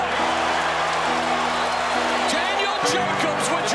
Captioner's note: cheering